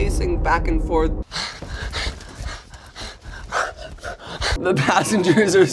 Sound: breathing heavily

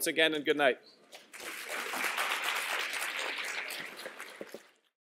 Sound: applause

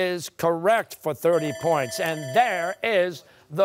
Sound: buzzer

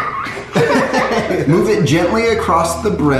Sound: laughs

